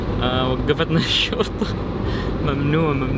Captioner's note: laughs